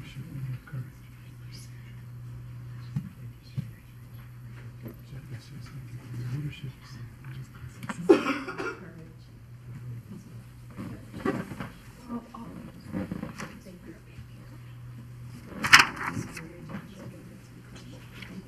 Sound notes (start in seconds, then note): 0.1 people chattering; 8.0 coughs; 12.5 people chattering